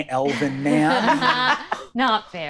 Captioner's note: all laughing